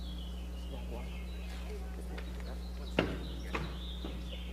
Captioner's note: students chatter